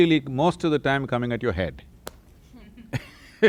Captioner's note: both laugh